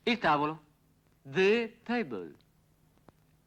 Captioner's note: spoken English